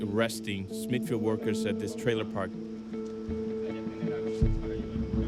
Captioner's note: people chatting